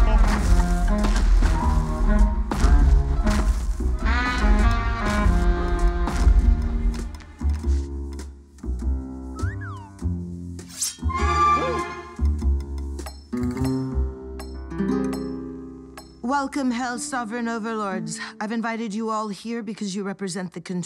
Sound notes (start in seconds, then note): 0.2 smooth jazz; 11.1 sharp teeth slashing; 13.2 knife shoes clinking